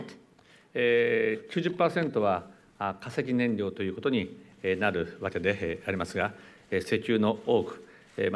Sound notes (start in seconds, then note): 2.0 speaking japanese